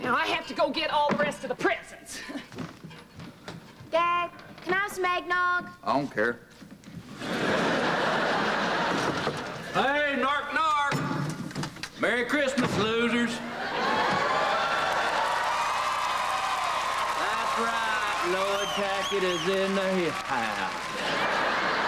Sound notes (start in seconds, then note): 8.7 knock on door